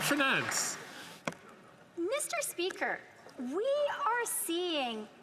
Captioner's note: some Applause